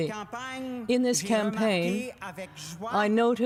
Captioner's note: speaking french